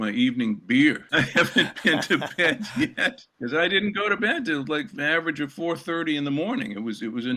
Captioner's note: laughter